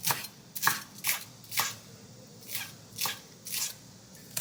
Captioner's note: chopping green onions